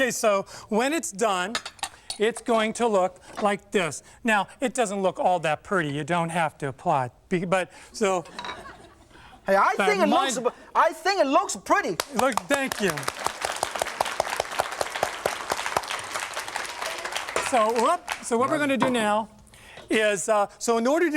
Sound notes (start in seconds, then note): 8.4 crowd laughs; 15.6 applause